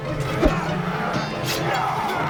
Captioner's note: cloth tearing